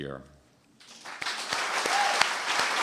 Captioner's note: applause